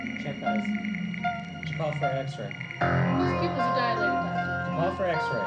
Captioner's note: murmuring